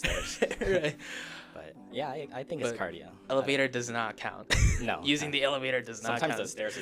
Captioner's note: laughter; laughter